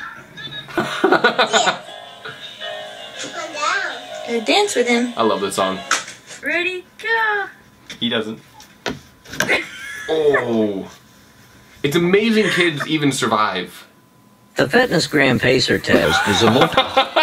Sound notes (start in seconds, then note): 0.8 laughing; 3.7 child speaks